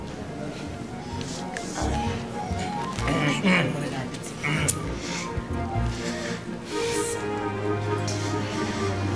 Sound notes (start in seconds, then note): 4.4 Edong clears throat